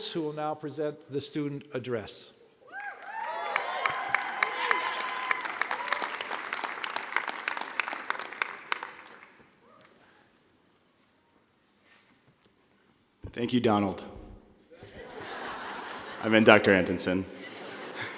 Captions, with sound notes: who will now present the student address. (clapping) (shouting) - Thank you, Donald. (laughing) I meant Dr. Antonson.